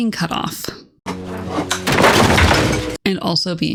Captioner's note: loud crash